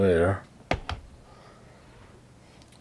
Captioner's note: remote clatters